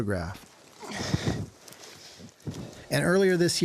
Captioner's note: panting